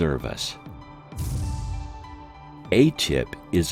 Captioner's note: craft rumbles